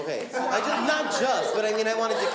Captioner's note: laughing